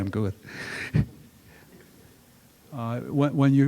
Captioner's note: chuckles